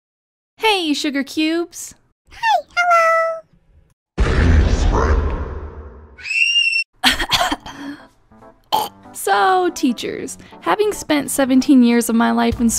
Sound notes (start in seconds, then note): 4.0 creepy Voice; 6.1 Le Scream; 6.9 chokes; 6.9 cough Cough